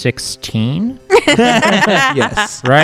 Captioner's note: laughter